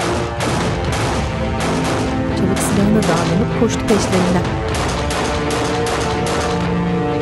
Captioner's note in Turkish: Silah sesleri